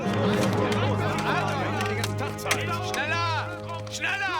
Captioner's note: speaking german